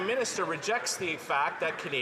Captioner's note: some Applause